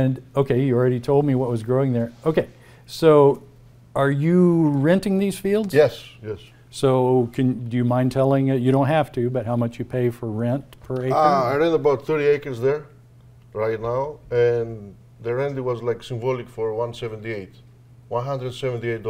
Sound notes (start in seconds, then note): none